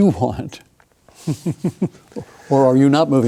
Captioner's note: chuckles